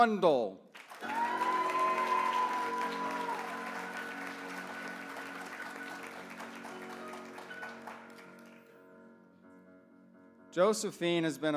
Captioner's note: applause